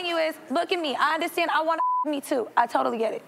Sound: beep

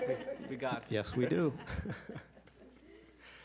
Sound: laughter

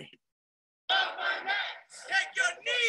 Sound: crowd

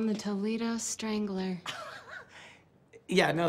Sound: laughs

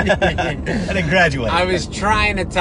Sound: laughs

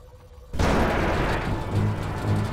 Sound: crashing noise

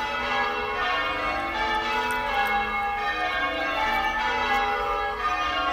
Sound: church Bells

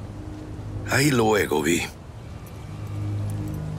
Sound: speaking in foreign language

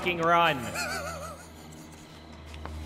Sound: laughs

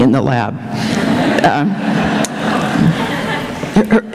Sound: laughter

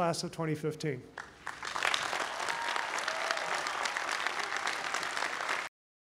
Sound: applause

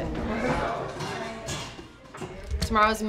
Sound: chatter

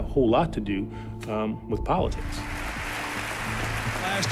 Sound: applause

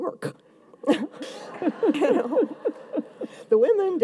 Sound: audience laughs

